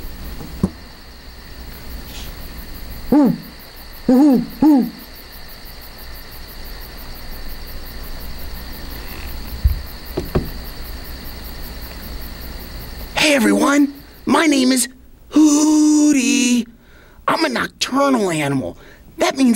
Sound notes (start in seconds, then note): 0.0 quiet nighttime noises; 3.0 hoot hoot hoot; 5.3 quiet nighttime noises